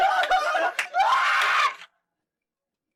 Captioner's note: screams